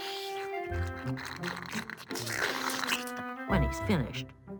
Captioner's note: slurping